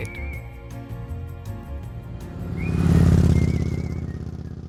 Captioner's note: lively music; motorbike roaring